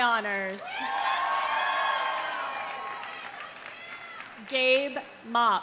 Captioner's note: audience cheering; audience applauding